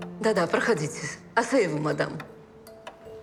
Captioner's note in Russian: Говорит по-французски